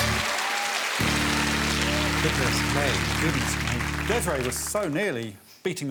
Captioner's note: audience applauding